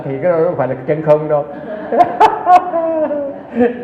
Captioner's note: laughs